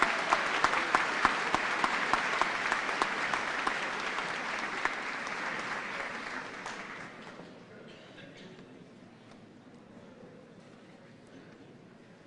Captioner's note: applause